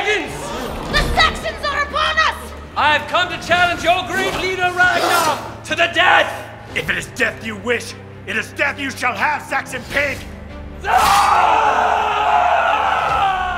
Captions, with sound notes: - Pagans! (gasping) - The Saxons are upon us! - I have come to challenge your great leader, Ragnar, to the death! - If it is death you wish, it is death you shall have, Saxon pig! (screaming)